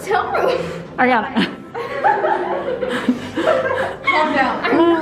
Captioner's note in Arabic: يضحك